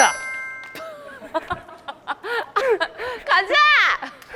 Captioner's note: cracking up